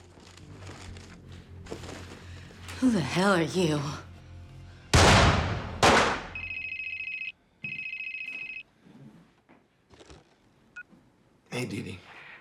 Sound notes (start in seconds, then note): 4.9 gunshots; 6.4 cell phone ringing; 10.4 cell phone beeps